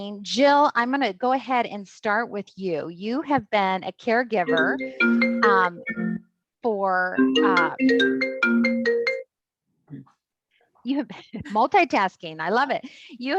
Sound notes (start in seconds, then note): 4.4 phone chiming